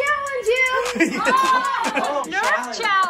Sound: laughing

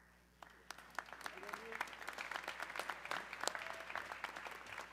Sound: audience clapping

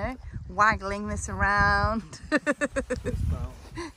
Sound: laughs

